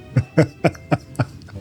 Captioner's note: laughs